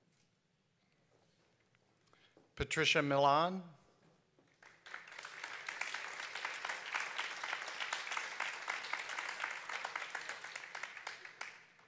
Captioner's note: applause